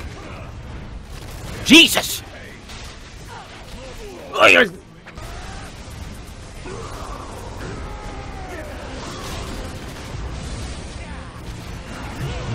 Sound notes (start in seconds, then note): 4.3 dying noise